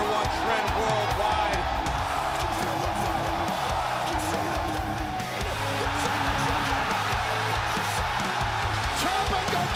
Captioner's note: crowd cheering